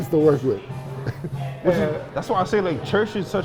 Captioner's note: laughter